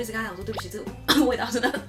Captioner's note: cough